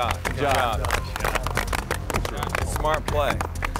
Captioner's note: apapplplauausese